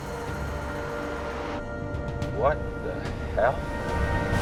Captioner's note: none